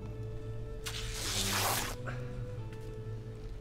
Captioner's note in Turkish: Müzik - Duygusal; Kumaş yırtma sesi